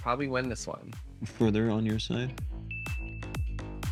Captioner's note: ding